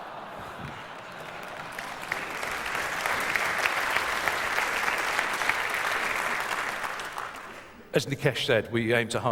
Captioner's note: applause